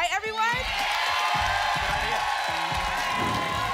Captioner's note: applause and cheering